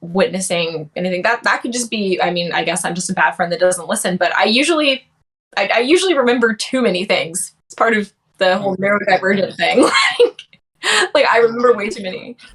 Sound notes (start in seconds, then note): 9.2 laughs